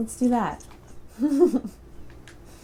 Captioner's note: laughter